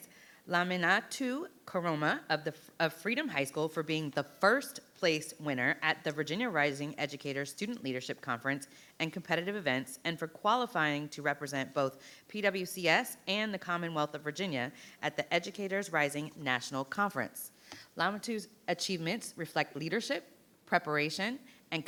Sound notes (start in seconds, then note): none